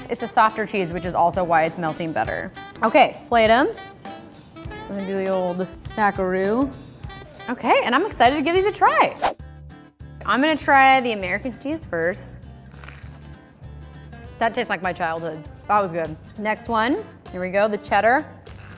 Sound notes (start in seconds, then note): 9.0 whooshing; 10.2 upbeat music; 12.4 crunching